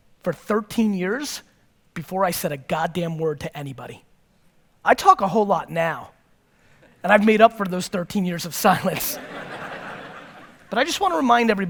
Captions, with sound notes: for 13 years before I said a goddamn word to anybody. I talk a whole lot now, and I've made up for those 13 years of silence (chuckles). (audience laughtr) but I just wanna remind everybody